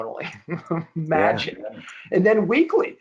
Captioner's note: chuckling